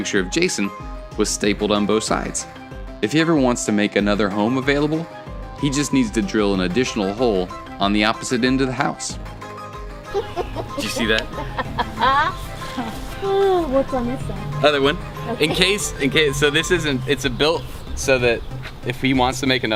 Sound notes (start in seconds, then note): 10.1 laughter